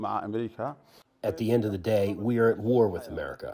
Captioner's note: through translator